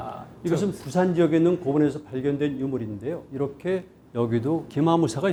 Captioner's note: speaking in Korean